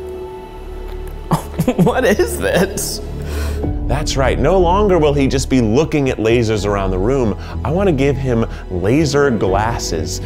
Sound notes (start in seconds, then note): 1.3 laughs